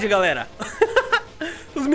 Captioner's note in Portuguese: risos